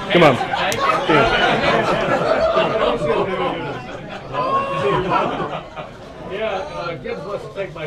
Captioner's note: laughter